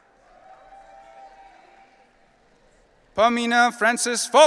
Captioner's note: audience cheering